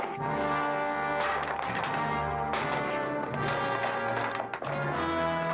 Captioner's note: crack; wood breaking; ominous music